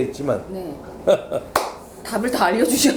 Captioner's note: clap